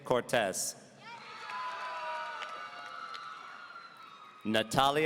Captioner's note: audience cheering